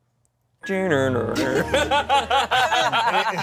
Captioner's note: imitates computer shutdown sound; everyone laughs